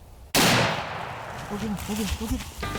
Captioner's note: gun firing